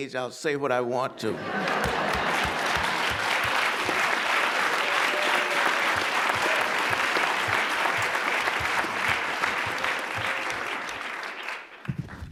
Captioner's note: applause